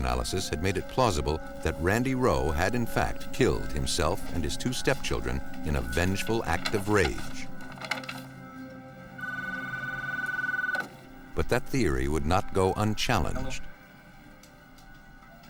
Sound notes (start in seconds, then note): 9.1 phone ringing